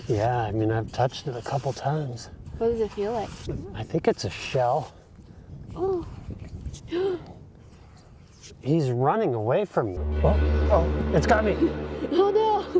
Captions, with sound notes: Yeah, I mean, I've touched it a couple times. What does it feel like? I think it's a shell. Oh. [Gasps] He's running away from you. Oh, it's got me. Oh, no.